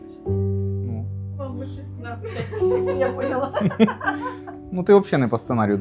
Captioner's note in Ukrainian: сміх